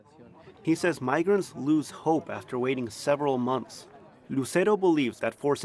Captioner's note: voice-over